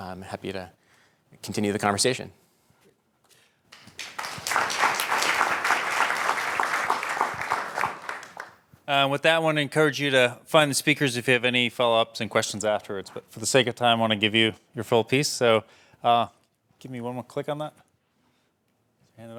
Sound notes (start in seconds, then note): 3.7 applause